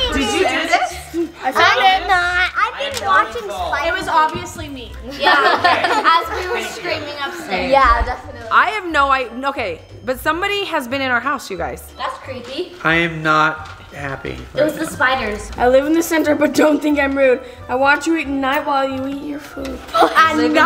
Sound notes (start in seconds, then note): 5.1 laughter